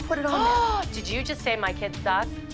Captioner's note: gasps